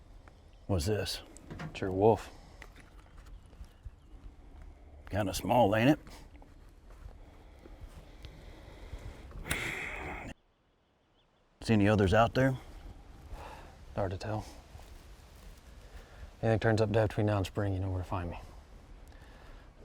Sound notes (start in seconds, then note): 7.3 inhales and exhales; 9.5 lighter clicks; 13.3 exhales